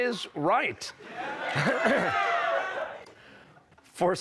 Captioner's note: laughter, cheers